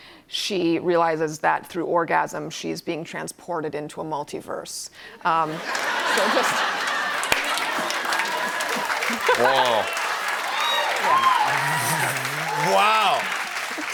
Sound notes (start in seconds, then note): 5.4 laughter; 7.5 applause